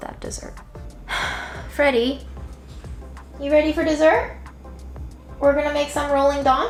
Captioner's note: sighs